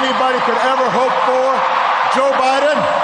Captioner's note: cheers, applause